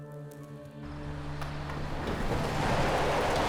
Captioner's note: car approaching; tires screech